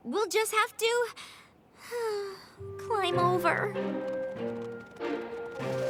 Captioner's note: sighs